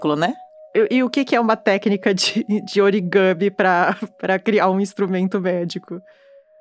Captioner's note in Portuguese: risos